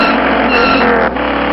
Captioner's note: skid